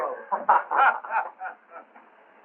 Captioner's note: laughter